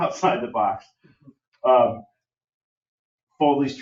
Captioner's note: laughs